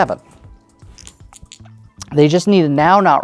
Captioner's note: dice rattling